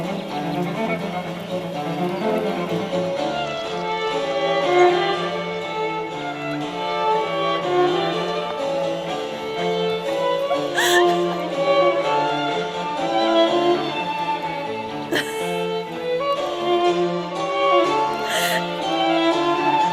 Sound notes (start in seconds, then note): 10.1 laughter